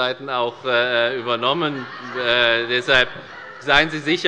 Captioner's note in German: Lachen bei der SPD